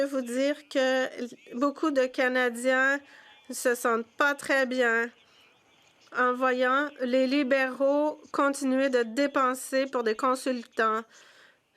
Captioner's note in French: voix de l'interprète